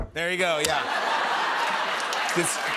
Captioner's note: laughter